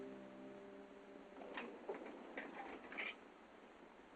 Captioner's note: metal clanging